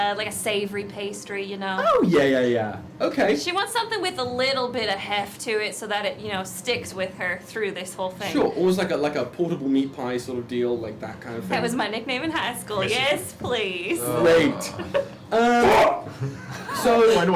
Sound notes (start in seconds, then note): 14.2 groaning; 15.4 shouts